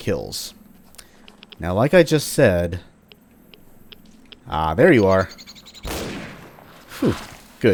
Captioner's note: bam